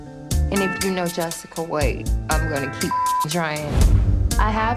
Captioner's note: beep